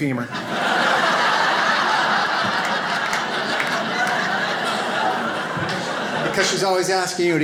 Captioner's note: audience laughs